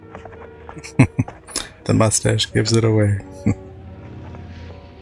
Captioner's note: chuckling